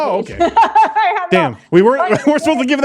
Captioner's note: laughing